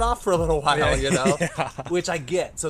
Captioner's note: laughing